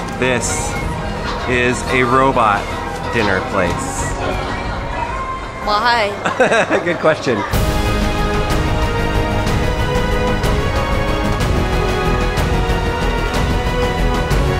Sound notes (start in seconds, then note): 6.0 laughs; 7.5 heroic music